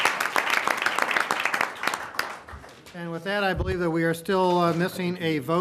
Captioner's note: applause